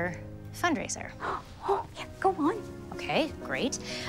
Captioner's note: gasps